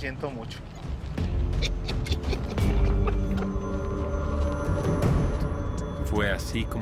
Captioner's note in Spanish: Ríe